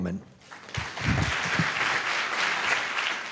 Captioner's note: applause